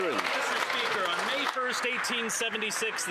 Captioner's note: some Applause